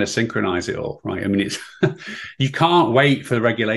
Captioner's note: chuckling